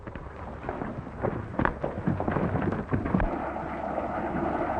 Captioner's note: horses galloping